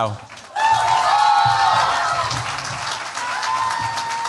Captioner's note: cheers, applause